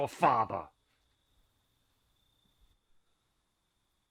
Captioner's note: silence